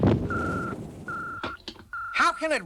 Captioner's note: ringing